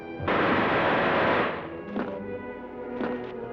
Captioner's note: gun blasting